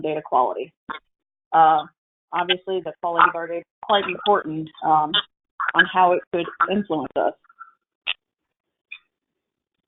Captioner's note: audio distortion